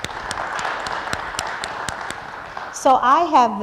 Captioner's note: applause